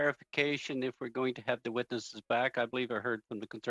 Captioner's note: speaking french